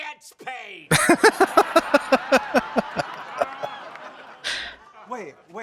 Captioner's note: laughing